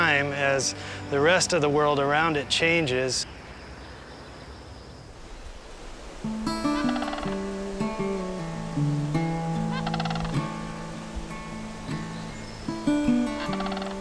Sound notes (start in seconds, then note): 6.3 sandhill crane calling